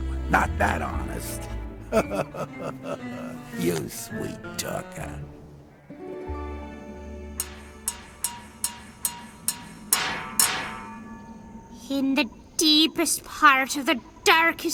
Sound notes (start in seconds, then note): 0.0 whispering; 0.6 laughing; 7.3 clanging